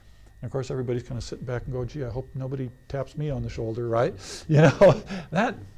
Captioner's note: laughs